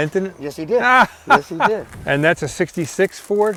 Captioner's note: laughs